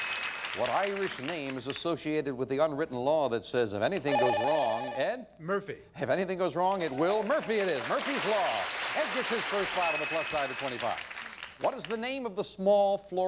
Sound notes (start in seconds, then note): 4.1 bell rings